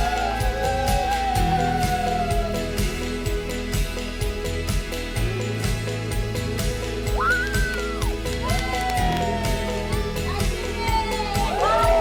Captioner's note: champagne spraying